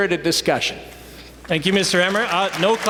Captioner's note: applause